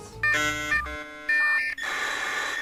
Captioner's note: internet dial up tone